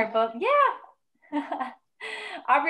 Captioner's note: laughs